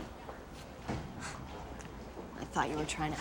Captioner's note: scoffs